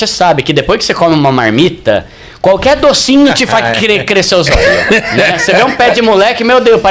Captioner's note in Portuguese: risadas